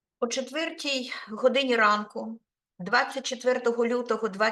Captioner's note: speaking Ukrainian